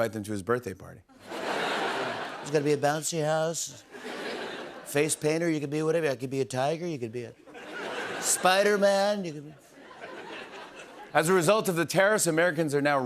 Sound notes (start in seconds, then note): 2.2 As Trump; 10.9 normal voice